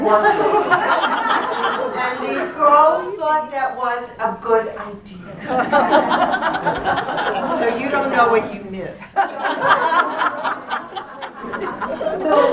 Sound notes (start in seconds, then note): 0.0 laughter; 5.3 laughter; 8.8 laughter continues